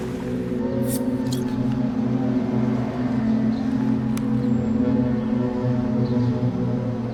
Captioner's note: can hisses; birds chirping